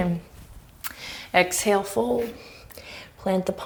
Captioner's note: deep breaths